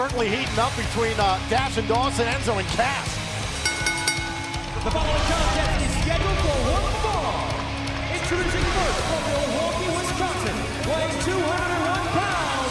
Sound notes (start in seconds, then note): 5.2 bell ringing